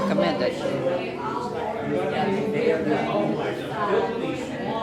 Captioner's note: customers chattering